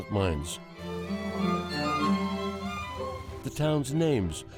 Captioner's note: spraying water